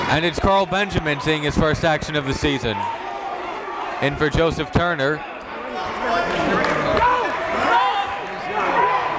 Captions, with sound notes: And it's Carl Benjamin seeing his first action of the season. In for Joseph Turner. (yelling)